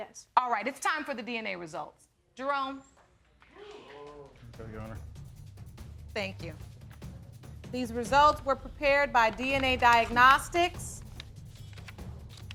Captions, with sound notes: All right, it's time for the DNA results. Jerome? (AUDIENCE EXCLAIMING) Here, Your Honor. Thank you. These results were prepared by DNA Diagnostics. (PAPER RUSTLING)